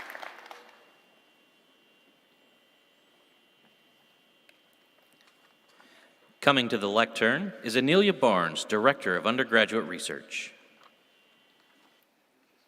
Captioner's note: applause